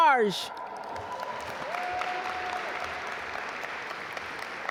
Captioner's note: audience applaud